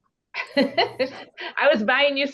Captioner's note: laughing